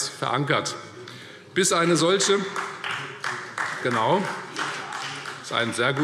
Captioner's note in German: Beifall Freie Demokraten